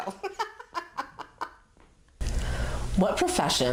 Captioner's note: laughs